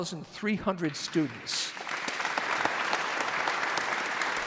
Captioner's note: audience applauds